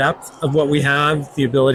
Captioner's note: crowd chattering